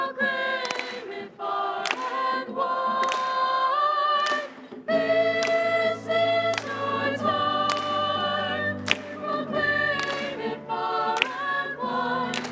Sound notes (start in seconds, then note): 5.5 clapping